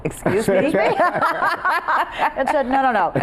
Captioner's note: group laughing